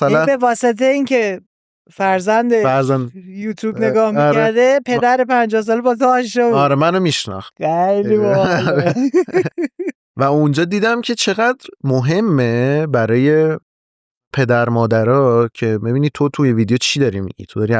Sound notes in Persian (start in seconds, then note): 8.1 خنده